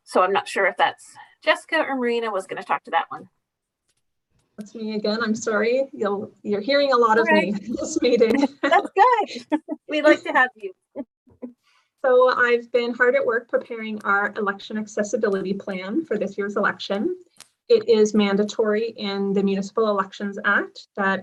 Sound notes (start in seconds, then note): 7.1 laughing